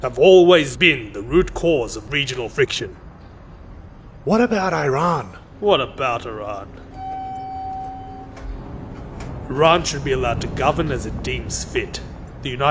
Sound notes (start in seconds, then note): 6.8 elevator dinging